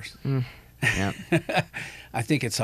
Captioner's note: laughs